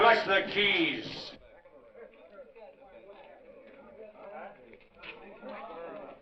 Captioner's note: crowd clamoring near